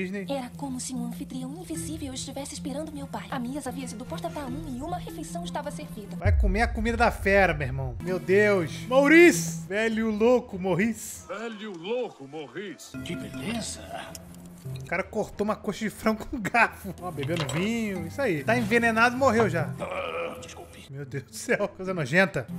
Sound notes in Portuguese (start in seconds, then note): 19.7 arroto